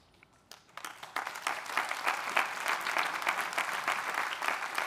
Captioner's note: audience applauding